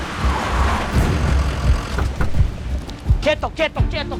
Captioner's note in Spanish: Ruido del vehículo; Frenazos